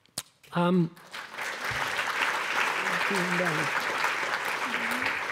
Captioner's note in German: Applaus